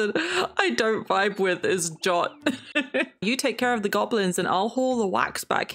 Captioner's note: laughs